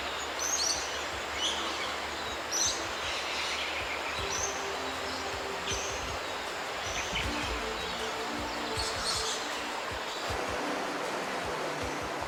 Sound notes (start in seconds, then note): 4.2 waterfalls sound, birds calls; 9.3 discovery music